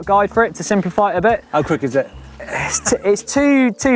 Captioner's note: laughs